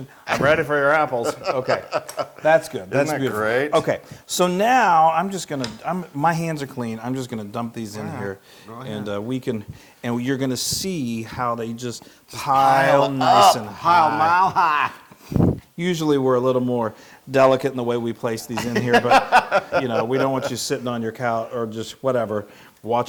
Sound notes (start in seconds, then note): 18.5 laugh